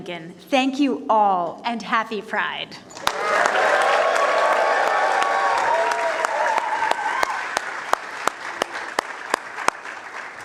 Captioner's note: cheers and applause